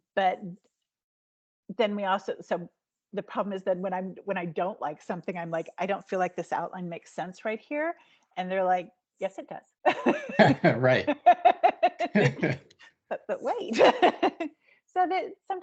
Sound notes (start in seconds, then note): 9.9 laughing; 13.7 laughing